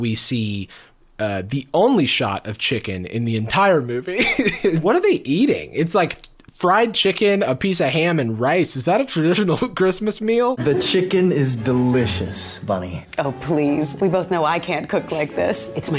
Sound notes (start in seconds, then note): 4.0 laughs